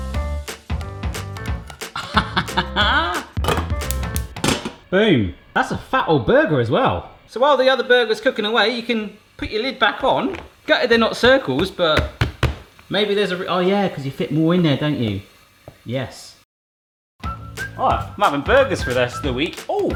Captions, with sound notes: (bright bouncy music) (laughs) Boom, that's a fat old burger as well. So while the other burger's cooking away, you can put your lid back on, gutted they're not circles but maybe there's a reason. Oh yeah, 'cause you fit more in there don't you, yes. I'm having burgers for the rest of the week.